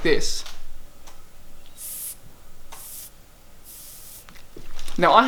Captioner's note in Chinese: 吐氣